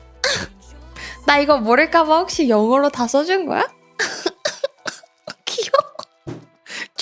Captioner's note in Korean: 웃음